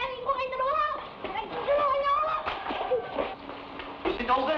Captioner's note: boy speaking in Tagalog